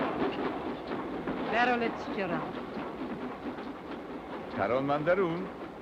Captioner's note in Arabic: البارونة تتحدث لغة أجنبية; هارتز يتحدث لغة أجنبية